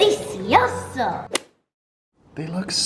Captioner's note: screen swishes